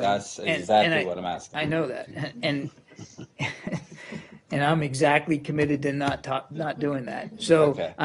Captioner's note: laughter